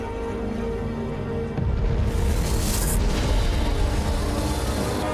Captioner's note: thunderous booming; sizzling